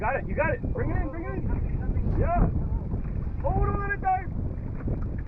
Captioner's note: wind blowing